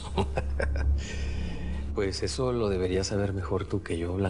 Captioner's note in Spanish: Risas